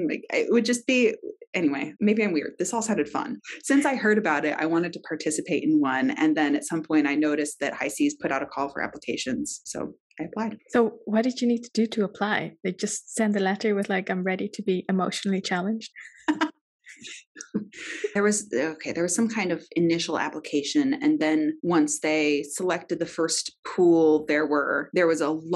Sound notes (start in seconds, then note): 16.2 laughs